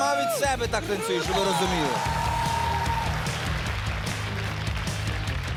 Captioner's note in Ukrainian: оплески